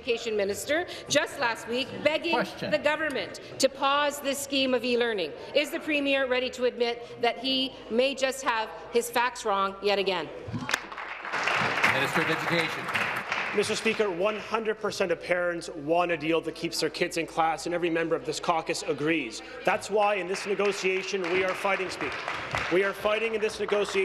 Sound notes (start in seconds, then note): 13.5 applause